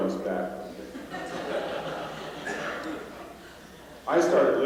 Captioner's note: laughter